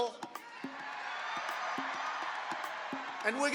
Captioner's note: audience cheering